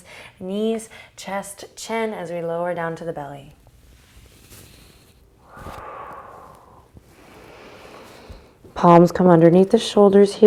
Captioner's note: breathing